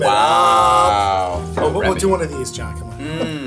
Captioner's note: sighs